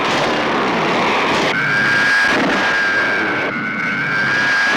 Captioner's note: zooming